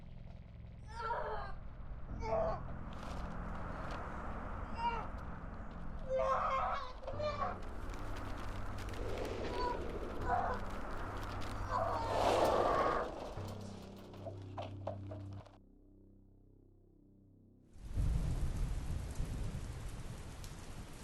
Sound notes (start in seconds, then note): 0.9 child groaning; 3.3 papers fluttering; 3.3 wind howling; 6.1 child groaning; 9.3 heavy swishing; 17.9 rain splatters